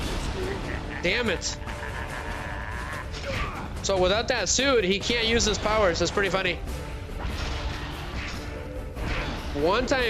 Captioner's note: groaning